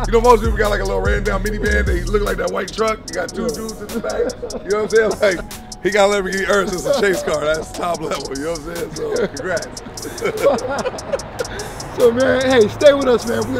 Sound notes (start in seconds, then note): 10.7 laughing